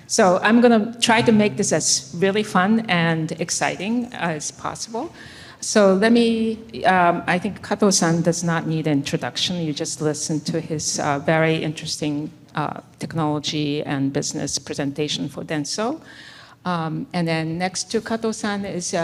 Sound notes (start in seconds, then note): none